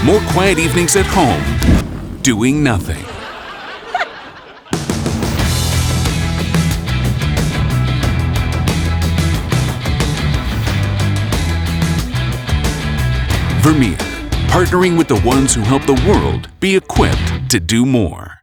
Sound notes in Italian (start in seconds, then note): 3.0 risate; 4.7 musica rock